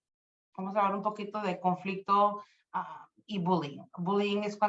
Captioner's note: speaking Spanish